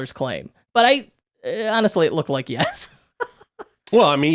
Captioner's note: chuckling